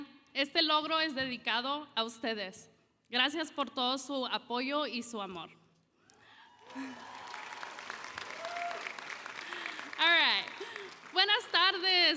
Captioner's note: applause; speaking Spanish; applause